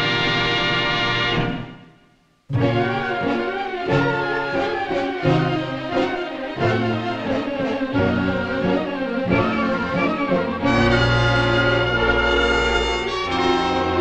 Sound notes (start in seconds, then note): none